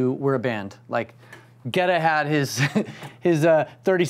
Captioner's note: chuckling